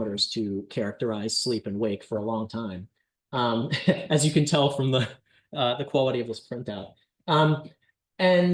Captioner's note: laughter